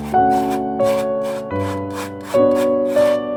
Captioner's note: palette knife on canvas sounds